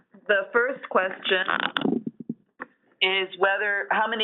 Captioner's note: voiceover